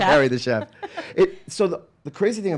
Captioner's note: laughing